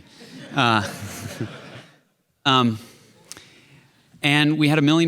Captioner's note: chuckles